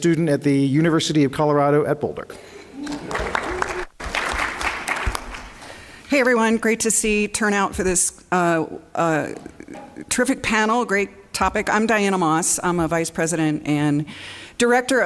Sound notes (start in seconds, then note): 2.8 applause